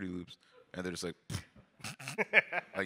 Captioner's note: blows raspberry